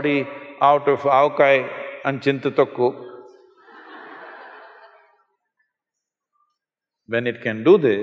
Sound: laughter

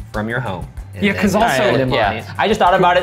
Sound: group chattering

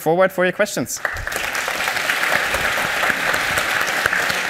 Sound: applause

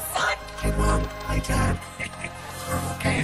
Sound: pa cop chuckles

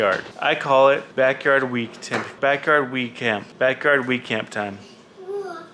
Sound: stutters

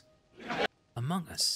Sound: extremely Brief Canned Laughter

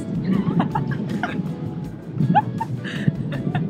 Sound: both laughing

